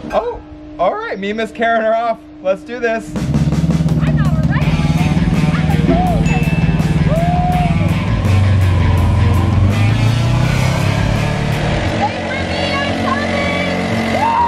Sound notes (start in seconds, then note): 8.7 bike engines roaring